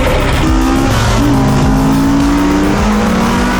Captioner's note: engines roaring